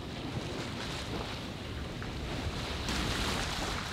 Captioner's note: water rushing